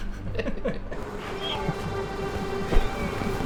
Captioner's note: both laughing; dramatic music